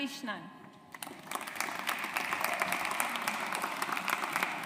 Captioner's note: audience applauds